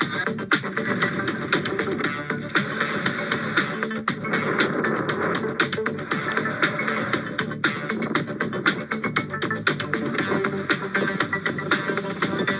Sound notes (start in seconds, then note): 4.1 wind whooshing